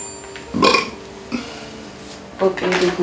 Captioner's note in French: burp !